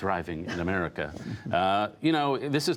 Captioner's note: laughter